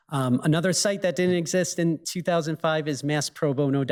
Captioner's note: none